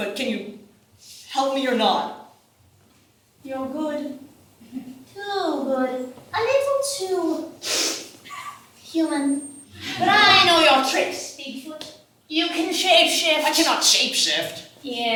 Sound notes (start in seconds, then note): 7.6 sniffs